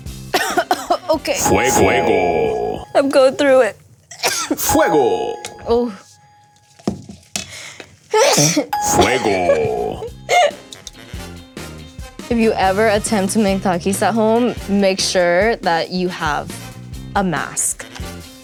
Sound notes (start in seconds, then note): 0.3 coughs; 3.8 strained voice; 4.2 coughs; 8.2 sneezing; 9.9 laughing